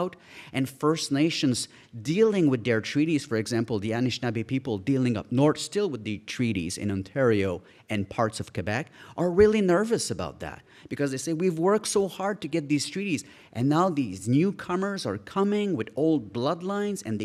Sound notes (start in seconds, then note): none